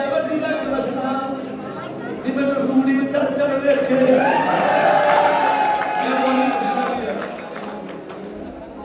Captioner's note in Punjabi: ਤਾੜੀਆਂ